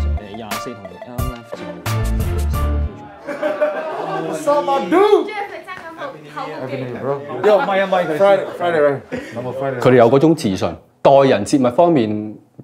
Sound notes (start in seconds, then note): 3.1 laughter